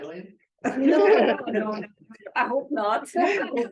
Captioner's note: laughter